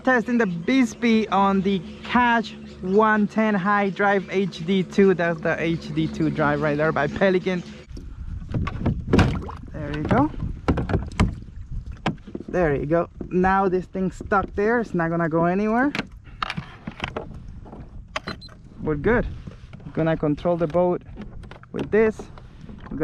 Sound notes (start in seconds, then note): 8.5 banging on boat; 9.1 water splashing; 17.2 beeping